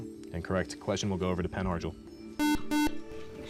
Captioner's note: buzzer